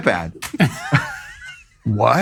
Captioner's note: crew laughing